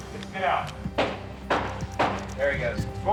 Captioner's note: feet stomping